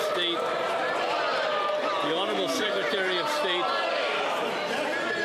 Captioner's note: some Applause